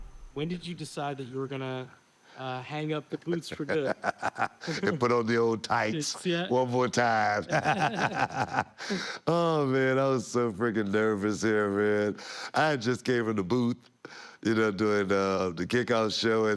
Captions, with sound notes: When did you decide that you were gonna hang up the boots for good. >> [LAUGH] And put on the old tights one more time. Man, I was so freaking nervous here, man. I just gave him the boot, doing the kickoff show.